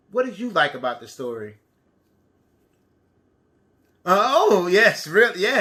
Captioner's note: none